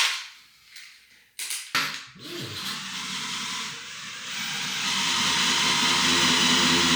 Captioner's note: drill whirring